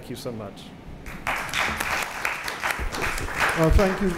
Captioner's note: applause